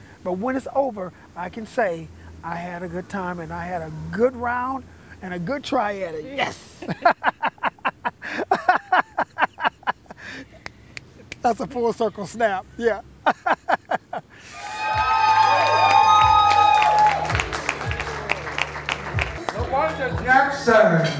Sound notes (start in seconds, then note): 7.5 laughing and snaps; 12.5 laughing; 14.4 cheering